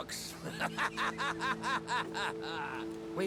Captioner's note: laughing